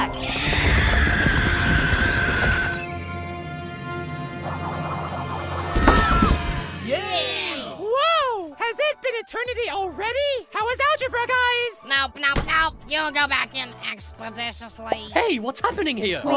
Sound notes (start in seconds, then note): 0.1 screaming; 5.6 scream; 6.8 cheer